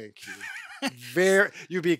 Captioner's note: chuckles